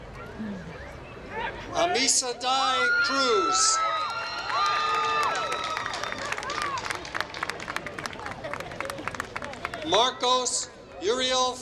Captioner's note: applause